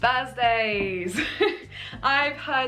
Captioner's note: laughing